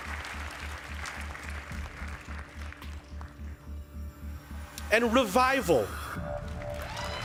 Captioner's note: applause; applause